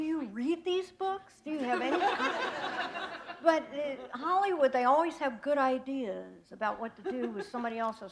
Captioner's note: laughter